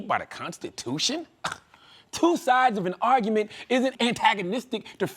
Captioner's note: scoffs